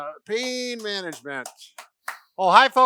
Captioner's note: clapping